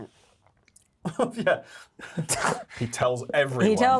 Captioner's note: Yerin scoffs